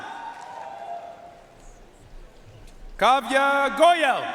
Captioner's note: audience cheering and applauding